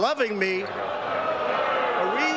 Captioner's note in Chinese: 噓聲